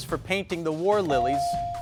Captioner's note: bell dinging